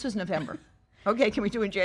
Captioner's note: laughs